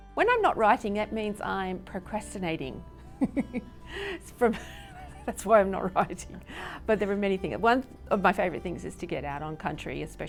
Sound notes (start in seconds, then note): 3.1 laughs